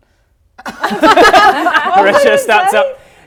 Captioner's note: laughing